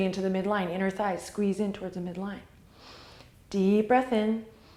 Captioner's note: exhale